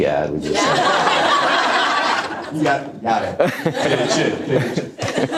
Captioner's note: audience laughter